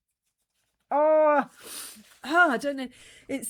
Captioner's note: sniff